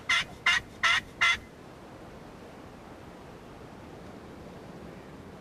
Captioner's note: makes turkey gobbling sounds